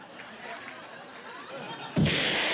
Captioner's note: laughing